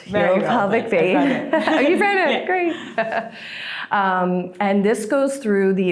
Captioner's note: collectively laughs